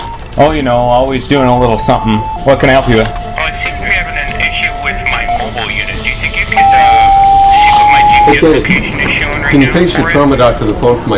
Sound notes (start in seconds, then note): 8.4 loud beep